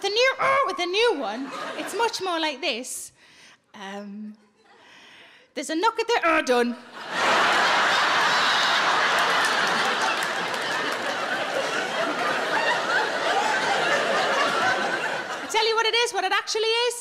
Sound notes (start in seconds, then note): 6.9 audience laughing